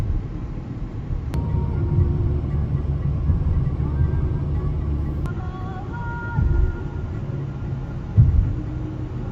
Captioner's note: heart pounding